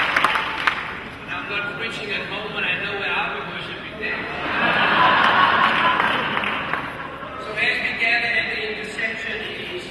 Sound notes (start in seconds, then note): 7.0 laughter